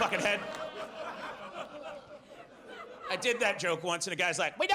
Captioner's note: audience laughs